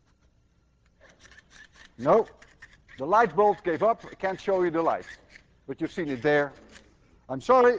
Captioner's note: device ratcheting